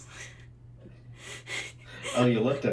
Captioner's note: laughing